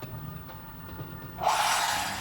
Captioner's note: whirring and grinding